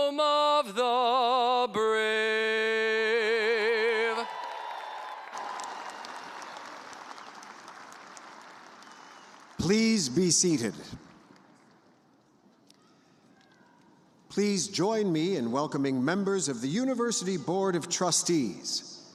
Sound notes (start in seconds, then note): 4.0 cheers and applause